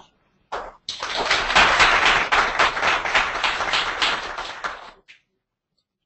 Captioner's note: applause